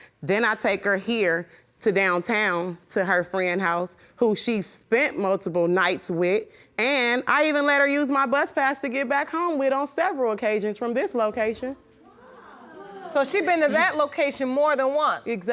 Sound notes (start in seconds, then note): 12.0 audience murmuring